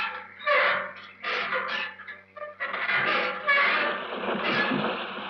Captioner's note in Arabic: صراخ باب ميتال جير